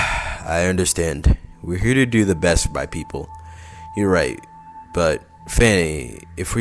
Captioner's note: sigh